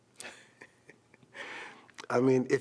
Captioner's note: laughs